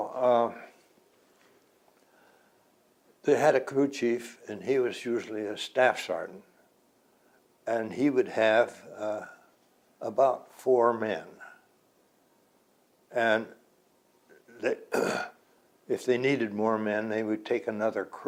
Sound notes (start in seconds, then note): 12.1 clears throat